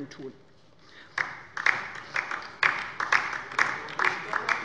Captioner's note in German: Beifall bei der LINKEN